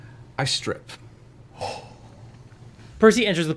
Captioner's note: gasps